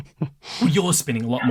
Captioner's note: chuckles